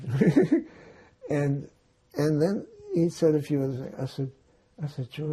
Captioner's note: laughing